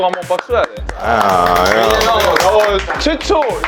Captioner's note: applause